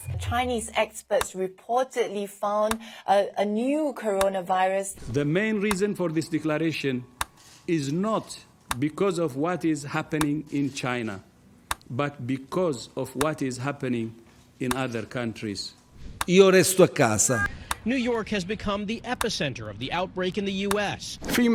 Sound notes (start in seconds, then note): 16.0 speaking in foreign language